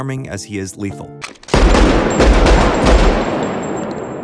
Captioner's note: gun shots